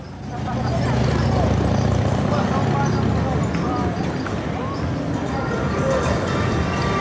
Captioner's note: ambient parade and city sounds